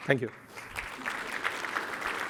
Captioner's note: applause